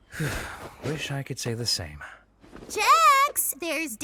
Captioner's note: sighs